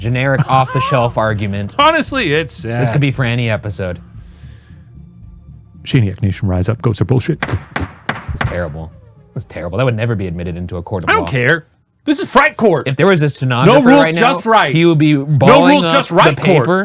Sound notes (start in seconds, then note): 7.4 gavel pounding; 7.4 blowing raspberries